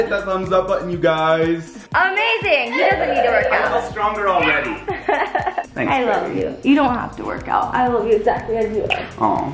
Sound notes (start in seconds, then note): 4.7 laughs